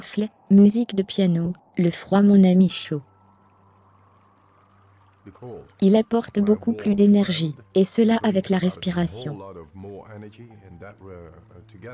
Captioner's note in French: le vent souffle; musique de piano